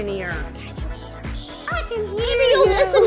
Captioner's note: whispers